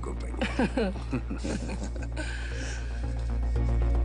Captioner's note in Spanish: Risas